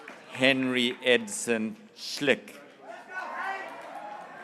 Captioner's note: graduates cheering